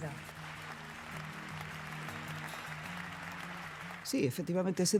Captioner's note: applause